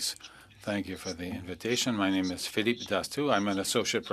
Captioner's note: speaking French